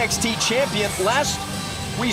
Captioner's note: crowd cheering